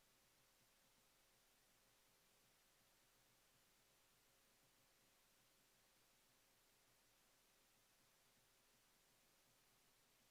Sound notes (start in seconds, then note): none